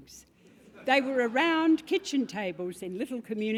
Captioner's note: laugh